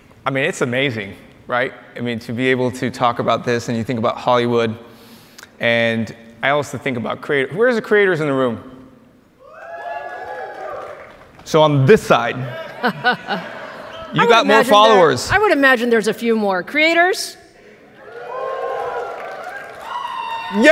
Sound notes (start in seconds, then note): 9.4 audience cheers; 12.6 Lisa laughs; 17.9 audience cheers